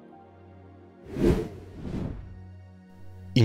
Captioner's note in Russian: Звук перехода